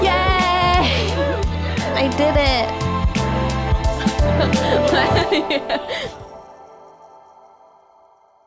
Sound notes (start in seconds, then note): 4.0 laughing; 5.7 music chiming